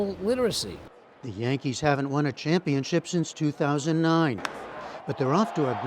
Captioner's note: voice-over